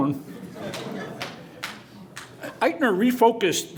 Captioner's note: laughter